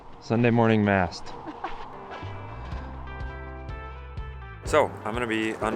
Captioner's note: laughing